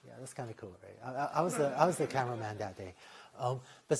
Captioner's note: laughter